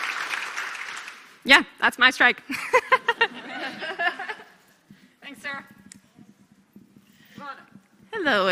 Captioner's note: applause